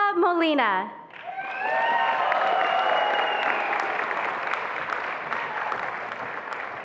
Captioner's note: attendees applauding and cheering